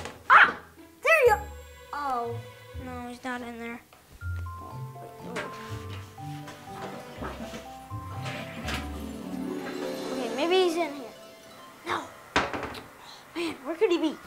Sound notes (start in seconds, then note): 6.7 toilet flushing